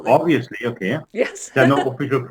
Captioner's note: laughing